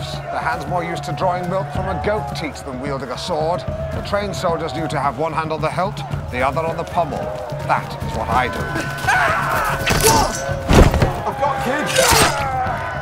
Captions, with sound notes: their hands more used to drawing milk from a goat teat than wielding a sword. The trained soldiers knew to have one hand on the hilt, the other on the pommel. That is what I do. (Yelling and groaning) - I've got kids!